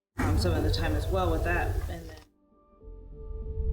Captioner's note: growl